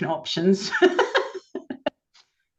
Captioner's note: laughs